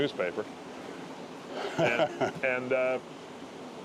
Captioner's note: laughter